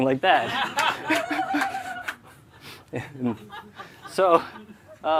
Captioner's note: laughter